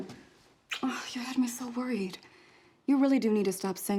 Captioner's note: kiss